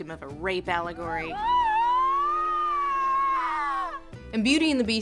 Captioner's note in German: Elendiges Heulen